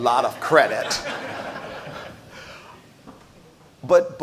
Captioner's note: audience laughs